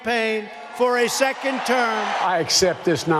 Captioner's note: attendees cheering